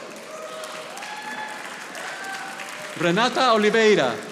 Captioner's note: audience applauding